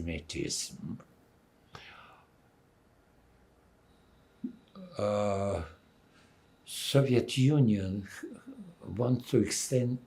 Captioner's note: pauses 6 seconds